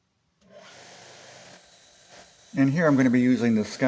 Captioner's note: grinder sounds